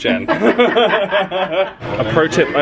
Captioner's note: both laugh